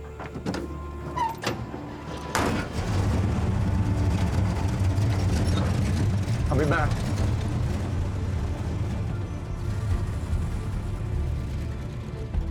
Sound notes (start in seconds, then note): 2.0 engine starts